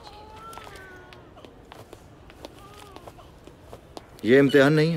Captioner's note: Footsteps